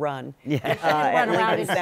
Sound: laughter

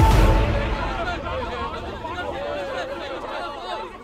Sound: dramatic music; crowd scattering

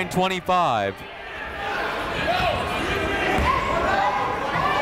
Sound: chatter

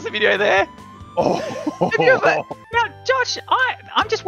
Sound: both laughing

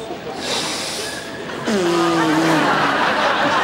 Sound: inhales

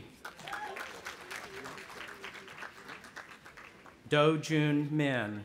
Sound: audience applauding

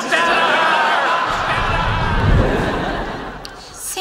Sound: audience laughing; air whooshing

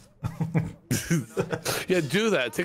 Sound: laughing

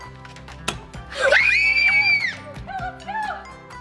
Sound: screams

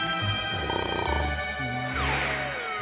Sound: snoring

